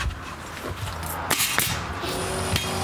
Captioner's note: stapling